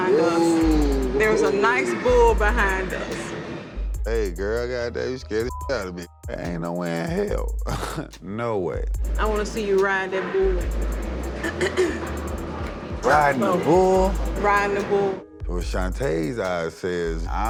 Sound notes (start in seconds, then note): 6.3 scoffs